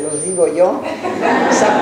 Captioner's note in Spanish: laughs